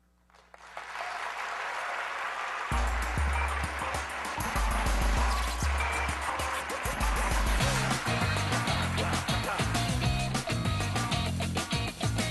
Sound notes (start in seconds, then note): 0.9 aplausos; 4.5 música alegre